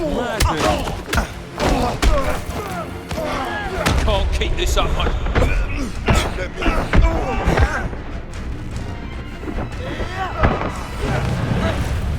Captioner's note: groaning